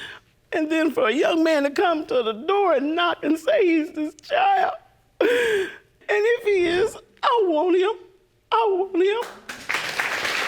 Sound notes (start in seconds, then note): 4.6 crying; 9.2 audience applauding